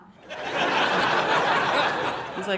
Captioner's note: audience laughing